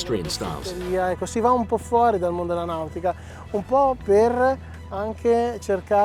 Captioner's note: speaking Italian